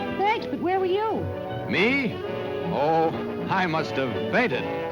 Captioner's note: none